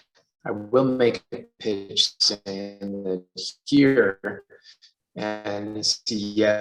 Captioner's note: audio blurs